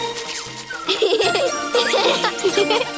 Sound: giggling

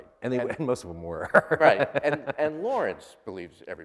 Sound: laughs

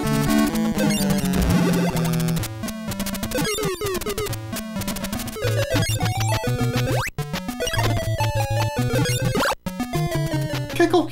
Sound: game audio

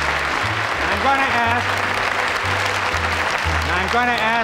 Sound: audience applause continues

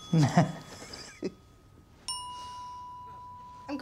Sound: bell dings; laughs

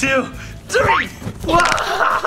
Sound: bounces; cracks; laughing

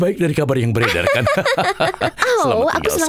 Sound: laughs loudly

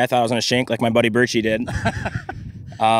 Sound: laughs

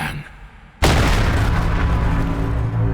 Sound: crumbling explosion; unsettling music playing

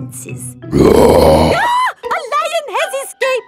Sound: roars; screams

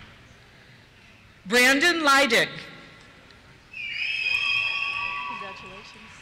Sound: cheers

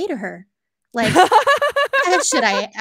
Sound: laughing

